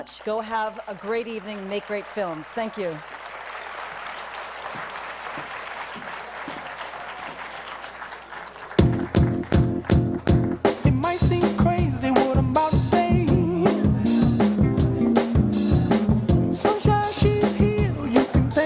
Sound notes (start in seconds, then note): 4.1 applause